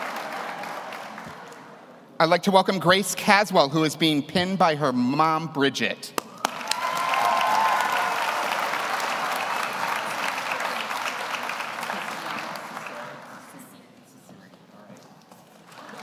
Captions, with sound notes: I'd like to welcome Grace Caswell, who is being pinned by her mom, Bridgette. (audience cheers) (audience applauds)